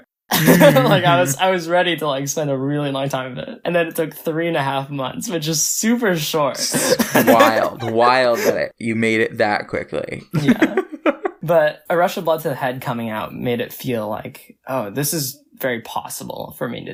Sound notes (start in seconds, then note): 0.3 laughs; 6.8 laughs